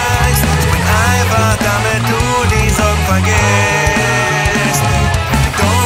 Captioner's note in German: Oohoohooh